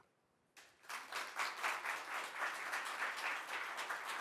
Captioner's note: audience applauds